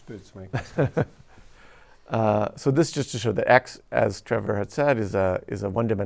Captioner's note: chuckles